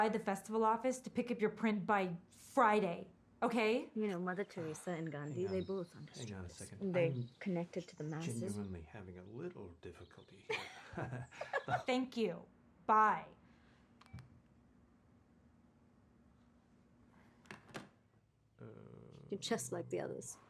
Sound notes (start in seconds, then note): 9.9 vivanti laughs